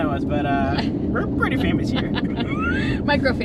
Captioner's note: both laugh